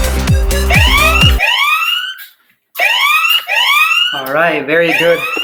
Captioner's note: alarm ringing